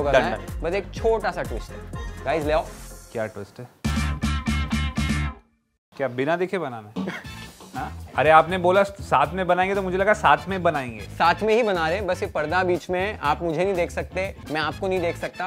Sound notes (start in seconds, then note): 7.7 laughs